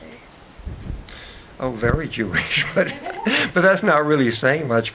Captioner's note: laughs